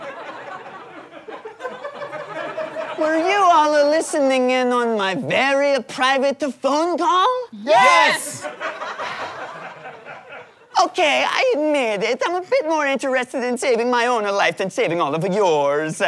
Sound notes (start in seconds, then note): 0.0 audience laughter; 9.0 sighs